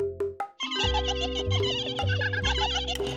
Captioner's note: toys laughing